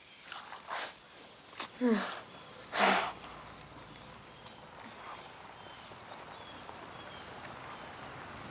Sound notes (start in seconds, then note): 2.7 moans; 3.0 vehicle approaching